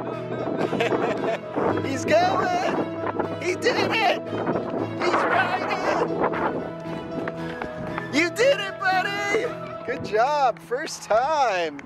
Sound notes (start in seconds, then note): 0.4 laughs